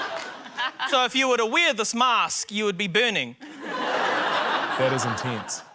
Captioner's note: laughter